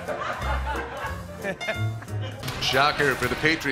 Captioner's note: laughter